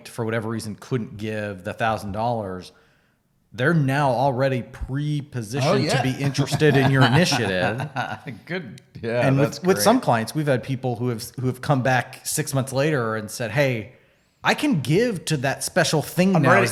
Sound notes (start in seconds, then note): 5.6 laughs